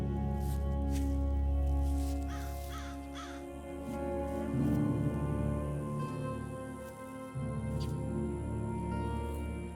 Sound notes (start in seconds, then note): 0.0 grass crunching; 2.6 bird cawing; 5.4 somber music